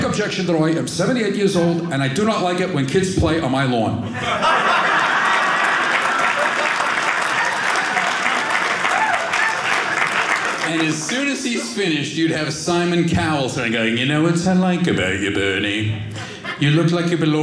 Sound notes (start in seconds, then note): 4.6 audience clapping